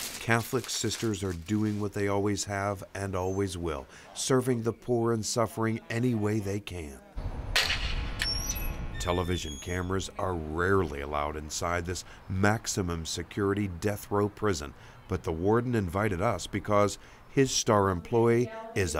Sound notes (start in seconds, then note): 0.0 plastic crinkling; 7.7 metallic creaking